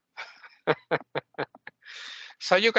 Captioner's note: laughing